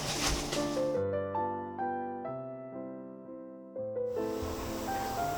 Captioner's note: heated oven